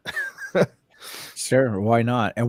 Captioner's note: laughs